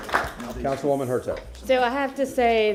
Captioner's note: applause